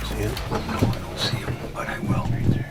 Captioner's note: whispering